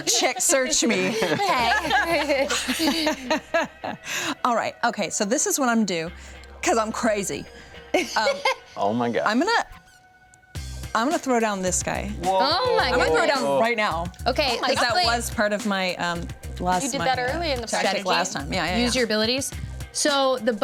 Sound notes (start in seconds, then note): 2.7 everyone laughs; 10.7 upbeat music